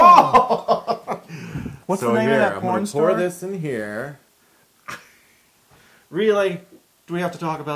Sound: laughter; laughter

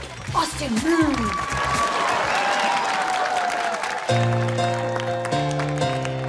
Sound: cheering; piano music playing

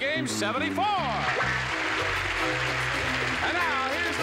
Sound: cheers and applause

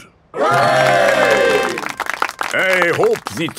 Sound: clapping

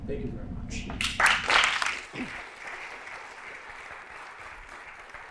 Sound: applause

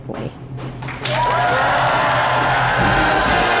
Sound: crowd cheers

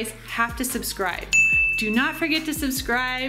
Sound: bell dings

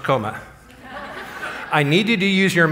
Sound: laughter

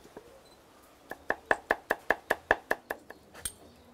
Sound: chopping sounds

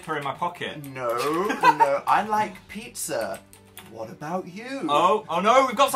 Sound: laughs

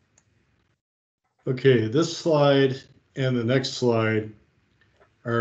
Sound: chuckling

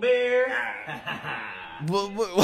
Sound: man laughs

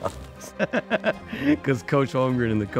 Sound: laughing

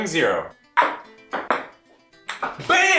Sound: ball clicks

